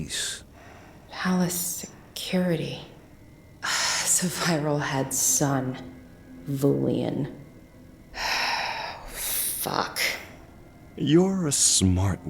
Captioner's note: deep sigh